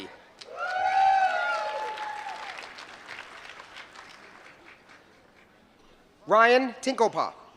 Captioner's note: applause